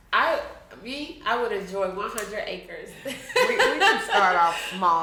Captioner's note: laughing